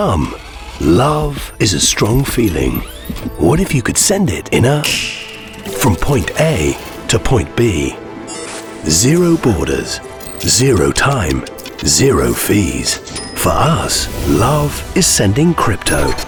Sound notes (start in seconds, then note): 4.9 finger snapping; 13.0 cash register dinging